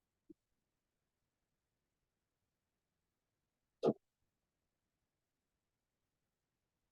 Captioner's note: silence